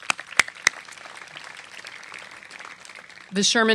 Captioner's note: applause